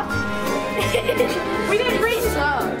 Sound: laughing

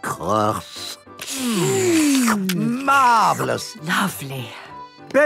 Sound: slurping

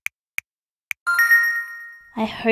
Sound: ding!

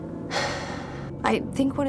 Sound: Paulette sighs

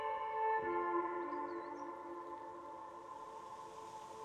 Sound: birds chirping

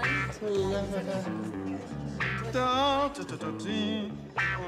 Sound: humming; jaunty music

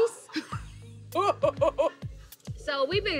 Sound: laughter

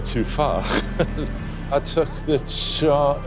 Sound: chuckles

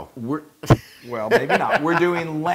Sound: laugh

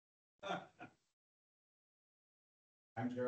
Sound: attendee laughs

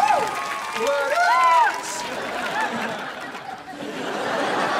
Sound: cheering

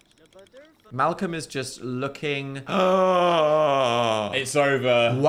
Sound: gasps

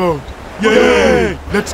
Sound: boat villagers cheer

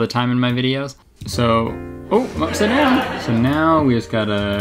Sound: laughs

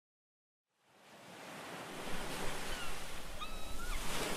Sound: ocean waves in the background

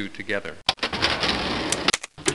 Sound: clanking

